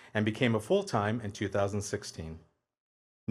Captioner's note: none